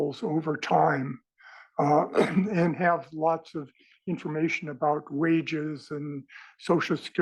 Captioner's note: cough